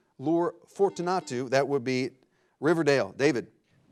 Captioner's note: buzzer blares